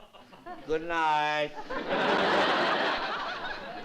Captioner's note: laughter